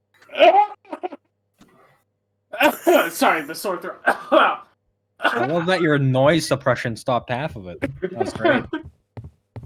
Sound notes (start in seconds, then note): 2.5 coughing